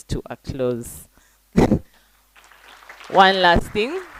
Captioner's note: applause